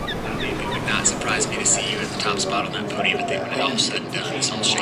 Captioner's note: on speakerphone